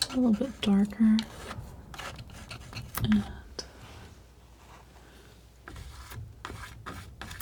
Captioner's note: scratching